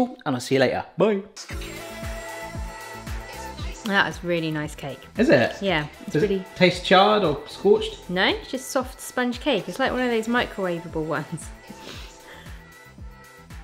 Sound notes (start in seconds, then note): 11.6 chuckles